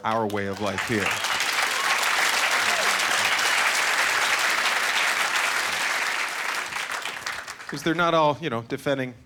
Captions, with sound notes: for our way of life here. (Cheering) 'Cause they're not all, you know,